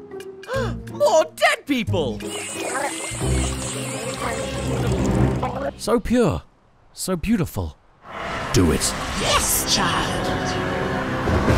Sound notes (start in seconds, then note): 0.4 gasp; 2.4 gargle; 11.3 thunder and lightning